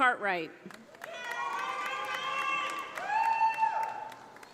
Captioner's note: audience applauding